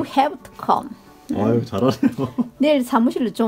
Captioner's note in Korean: 웃음